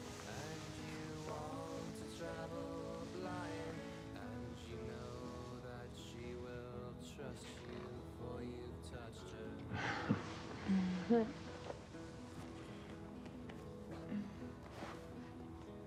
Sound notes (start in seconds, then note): 9.8 Jim chuckles; 10.6 Betsy chuckles